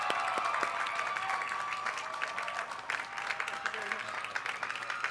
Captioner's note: applause